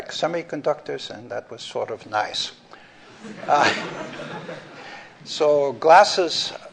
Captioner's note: laughter